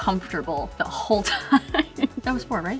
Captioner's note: laughs